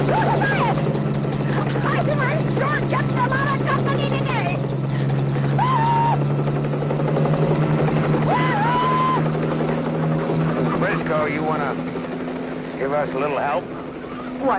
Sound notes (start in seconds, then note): 0.2 Ms. Briscoe screams and talks; 2.4 helicopter roaring drowns out Ms. Briscoe; 5.7 Ms. Briscoe screams